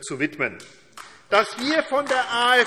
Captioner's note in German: Beifall AfD